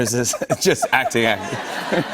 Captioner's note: laughter